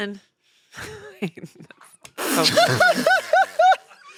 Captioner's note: they laugh